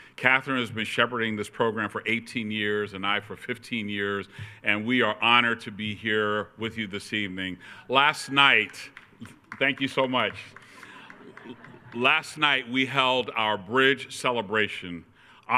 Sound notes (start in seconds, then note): 8.0 attendee cheering